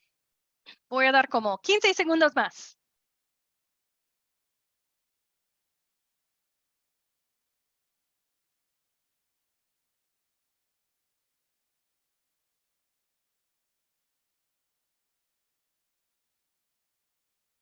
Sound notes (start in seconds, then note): 3.0 silencio